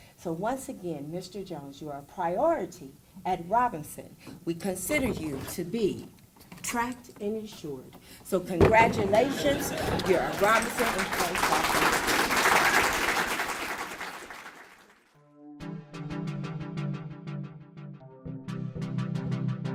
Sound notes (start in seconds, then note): 12.1 applause; 15.2 mystical music